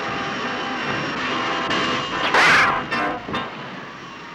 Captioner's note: blasting